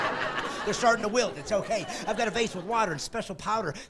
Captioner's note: evil laughing; laughing